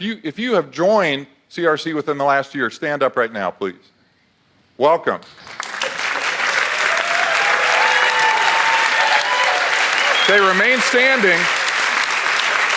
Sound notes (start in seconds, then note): 5.4 audience applauds